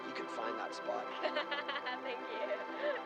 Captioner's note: laughs